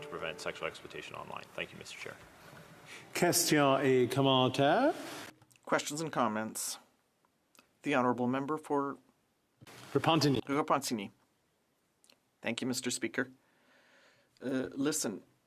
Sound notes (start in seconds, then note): 9.4 speaking French